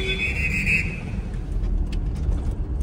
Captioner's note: whistle